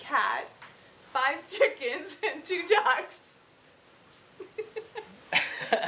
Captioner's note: laughing